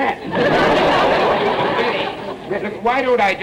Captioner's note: audience laughter